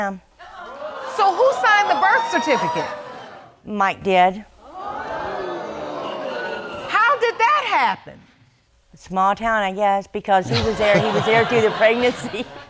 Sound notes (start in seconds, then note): 0.5 audience exclaims; 4.8 audience gasping